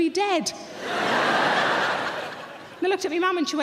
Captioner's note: audience laughing